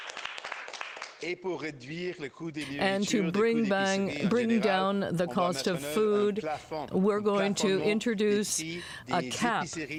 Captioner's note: applause